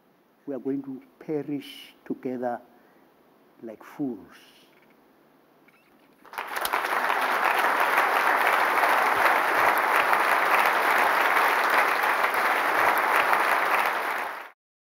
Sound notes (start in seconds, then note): 8.7 applause